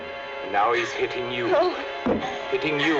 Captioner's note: fist thumping